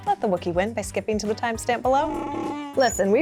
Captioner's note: Wookie roars